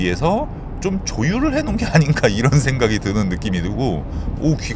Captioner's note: chuckles